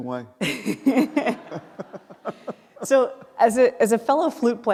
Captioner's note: laughing